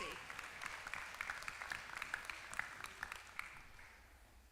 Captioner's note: applause